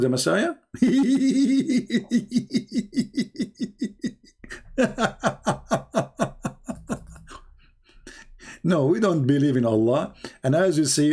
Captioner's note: Ketawa